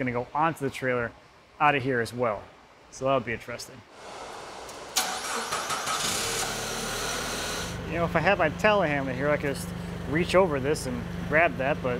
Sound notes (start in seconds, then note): 5.1 motor revving